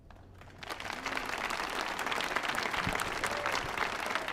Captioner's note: audience applauding